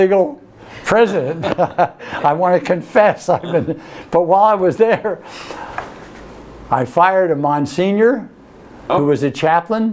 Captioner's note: laughs